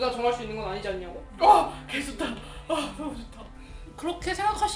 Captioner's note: gasp